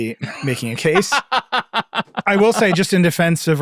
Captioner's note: laughing